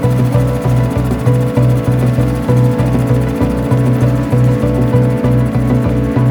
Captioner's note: boat whirring; dramatic music continues